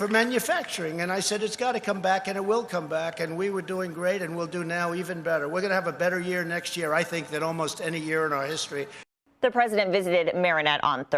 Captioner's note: applause